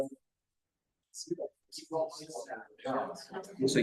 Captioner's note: people chattering